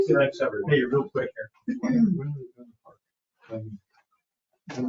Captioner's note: people chattering